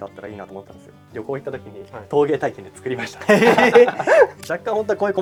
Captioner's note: laughs